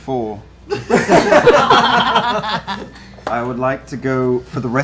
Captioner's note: laughter